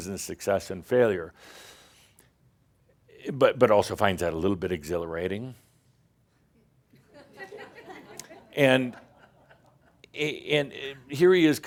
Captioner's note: more stink eye and a few chuckles